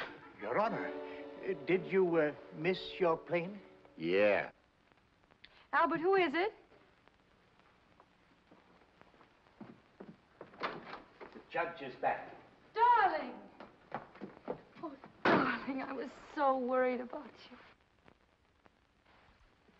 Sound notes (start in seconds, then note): 0.0 door closes hard; 0.0 whimsical music; 10.4 door opens; 13.5 brisk footsteps